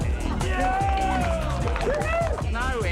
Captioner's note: cheering